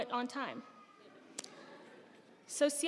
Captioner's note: audience laughing